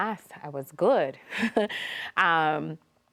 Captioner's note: chuckles